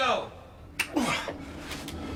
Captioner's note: grunts